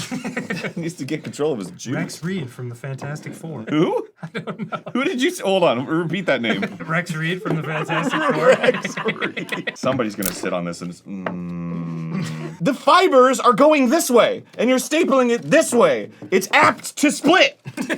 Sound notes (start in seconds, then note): 7.7 arin, laughing; 10.2 snap